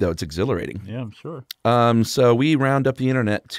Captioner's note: voiceover